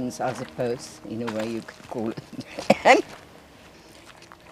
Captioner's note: laughs